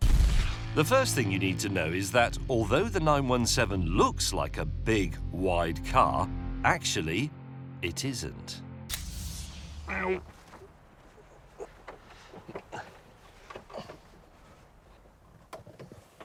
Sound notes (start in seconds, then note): 11.0 straining